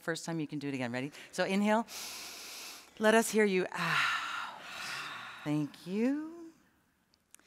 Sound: breathes through nose

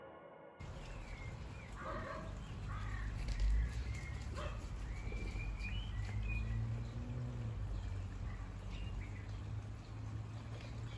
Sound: garden sounds. Dogs barking. Birds singing

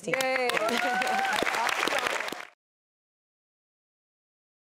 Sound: audience applauds

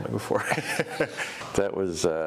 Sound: laughing

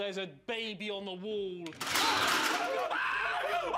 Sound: clattering; screams

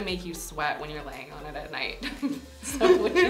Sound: chuckles

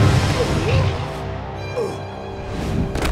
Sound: groaning

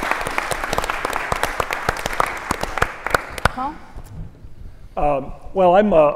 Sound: applause

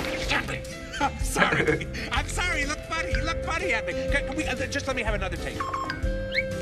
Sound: chuckles

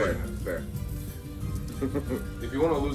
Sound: laugh

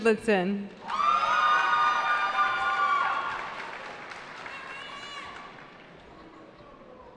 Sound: cheering

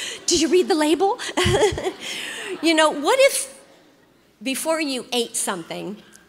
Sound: laughs

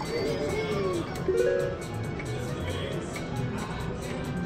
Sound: machine beeps

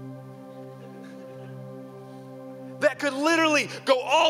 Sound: audience laughing

